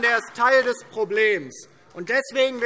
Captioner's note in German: Beifall DIE LINKE